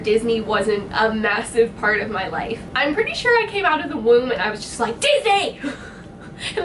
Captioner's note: laughs